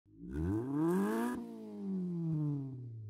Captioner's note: engine revs